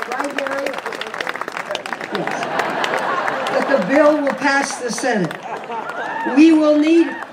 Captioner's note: audience laughs